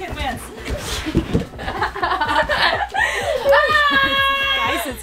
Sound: laughing

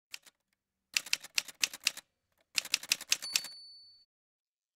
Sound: typewriter sounds

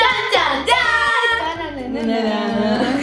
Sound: laughs

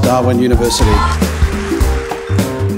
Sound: applause

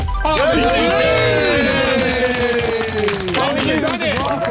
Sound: everyone cheering

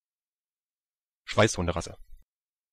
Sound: fast Pronunciation

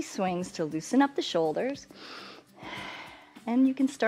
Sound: inhales and exhales

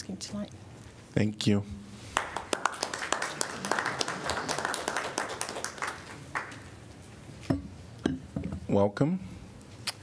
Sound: applause

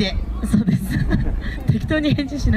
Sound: laugh

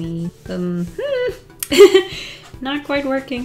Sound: laughs

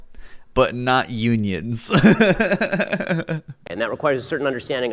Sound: laughs

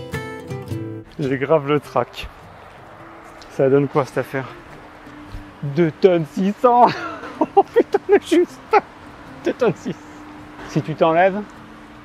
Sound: laughs

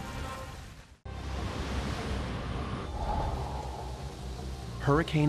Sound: wind whooshing

